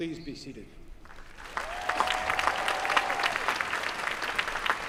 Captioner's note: applause